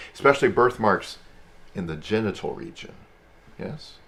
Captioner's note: none